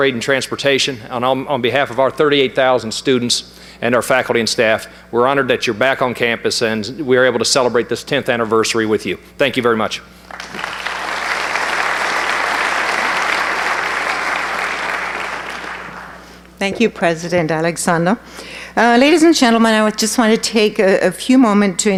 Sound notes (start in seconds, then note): 10.2 applause